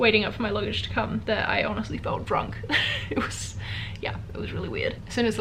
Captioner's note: chuckles